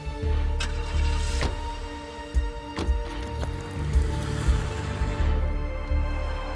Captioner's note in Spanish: Sonido del motor